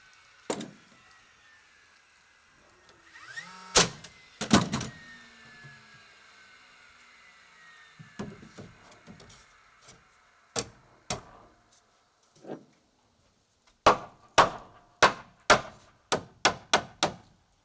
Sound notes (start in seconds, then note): 15.0 hammer banging